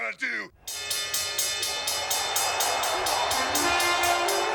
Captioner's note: bell rings